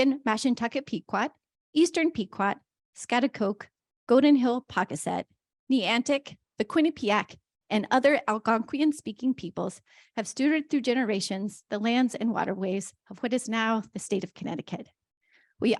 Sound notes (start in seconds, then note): none